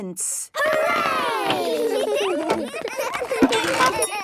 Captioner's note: excited giggling